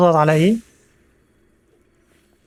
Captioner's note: none